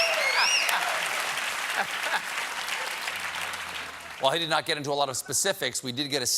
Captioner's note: applause